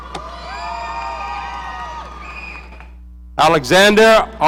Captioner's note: audience cheering